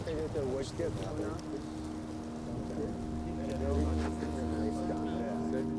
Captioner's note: indistinct chatter